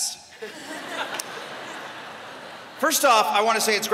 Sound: laughter

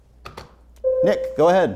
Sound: buzzer sounds

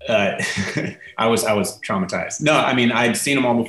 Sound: laughing

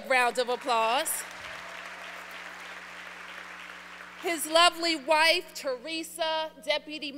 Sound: applause

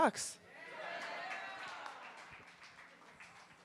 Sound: cheering

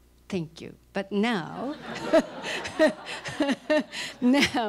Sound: laughter

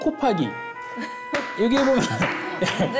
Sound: laughing

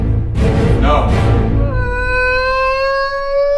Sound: crying

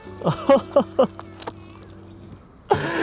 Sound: excited chuckle

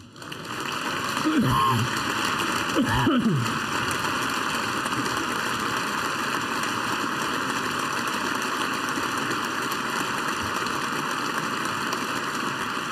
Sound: applause

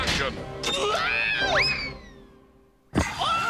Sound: Coconuts screams

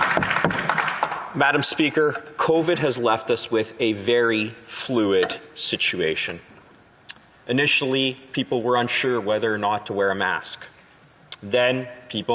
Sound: applause

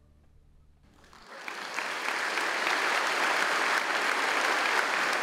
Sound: audience applauds

